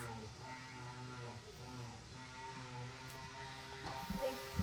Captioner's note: machine revving